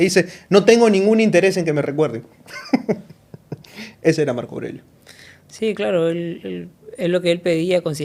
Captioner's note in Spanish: risas